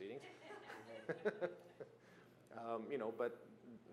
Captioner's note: laughter